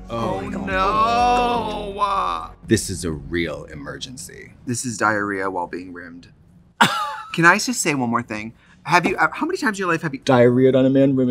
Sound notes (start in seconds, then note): 6.8 Katya laughs